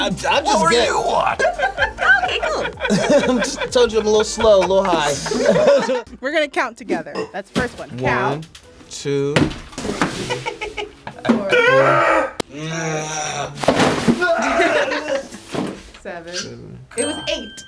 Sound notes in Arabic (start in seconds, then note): 1.2 يضحك; 9.7 شخص يصفع الطاولة; 11.5 يصرخ شخص; 14.4 تضحك